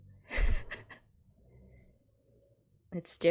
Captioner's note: laughs